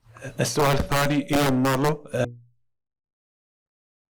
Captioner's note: in Arabic